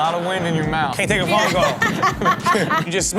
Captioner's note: laughs